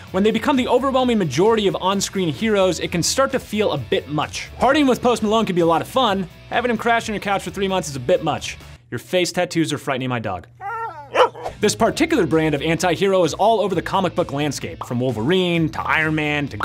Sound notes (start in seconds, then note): 10.6 dog whimpers; 10.6 dog barks